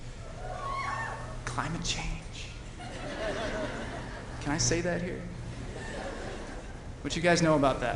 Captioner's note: whispering